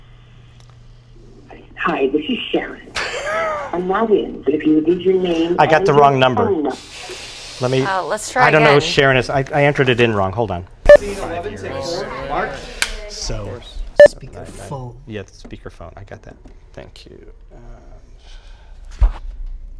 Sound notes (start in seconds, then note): 10.9 crowd noise from crew; 11.8 clapper; 12.8 clap